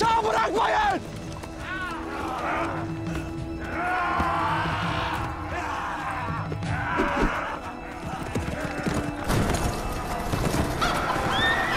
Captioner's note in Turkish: Bağrışma ve at sesleri